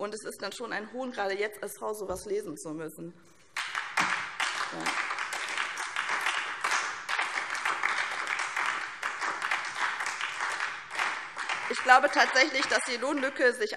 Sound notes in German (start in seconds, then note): 3.5 Beifall SPD und DIE LINKE